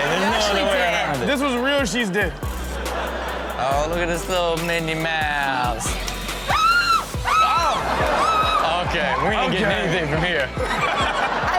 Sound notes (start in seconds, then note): 2.4 audience laughs; 6.5 woman screams